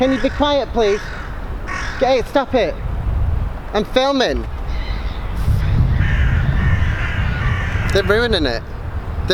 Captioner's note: more bird noises